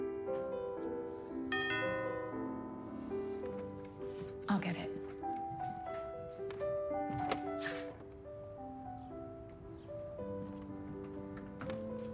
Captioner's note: doorbell rings